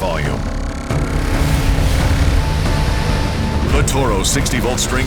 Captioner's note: whirling sound